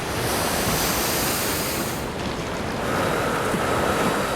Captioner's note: waves pounding